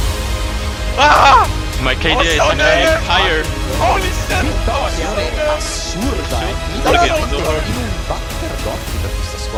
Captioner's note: everyone cheering